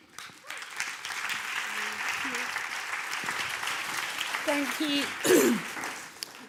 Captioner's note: applause